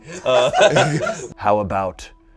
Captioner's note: everyone laughing